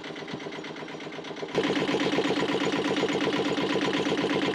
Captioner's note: engine knocking